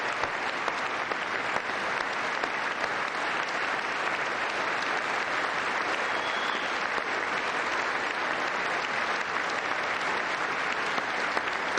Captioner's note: applause